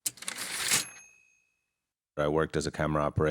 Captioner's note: typewriter ding